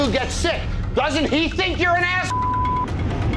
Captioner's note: beep